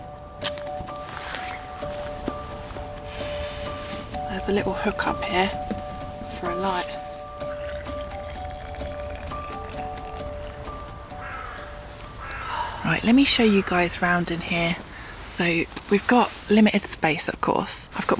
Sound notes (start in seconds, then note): 0.4 match strike; 7.4 pouring water; 11.1 crow cawing